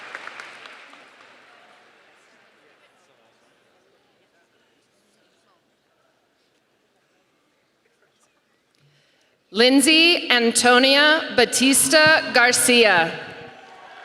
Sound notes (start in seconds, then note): 2.0 applause